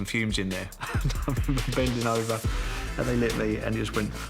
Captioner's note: chuckles